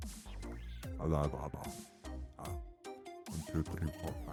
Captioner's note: dumb monkey sounds